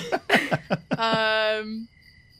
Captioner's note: laughter